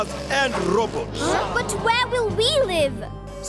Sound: gasping

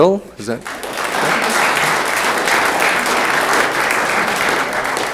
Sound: room applauds

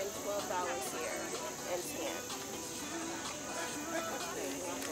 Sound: group chatting

